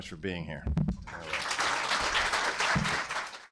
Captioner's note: applause